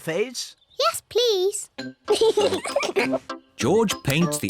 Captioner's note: both giggle